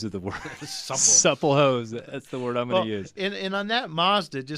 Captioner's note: both laugh